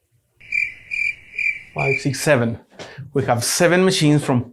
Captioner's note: crickets chirping